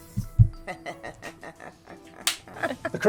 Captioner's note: laughing